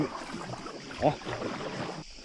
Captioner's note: moan